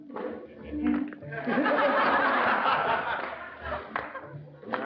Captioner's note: laughter